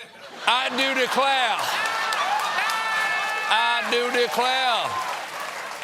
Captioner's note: laughter